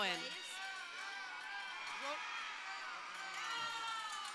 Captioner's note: crowd cheering